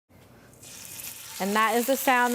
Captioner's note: chicken sizzling